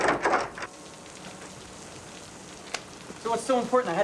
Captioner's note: footsteps tapping; rain dripping